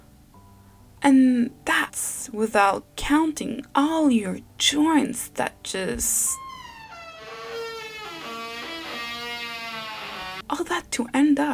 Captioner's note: grincement de porte